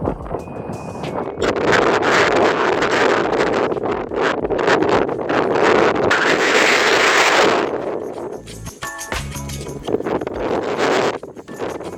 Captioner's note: heavy wind noise